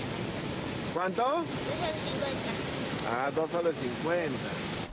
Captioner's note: man speaking native language